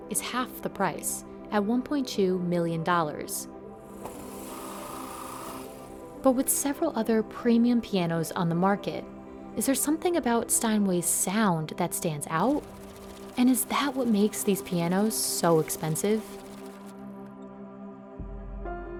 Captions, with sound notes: is half the price, at $1.2 million. [drills whirring] But with several other premium pianos on the market, is there something about Steinway's sound that stands out? And is that what makes these pianos so expensive?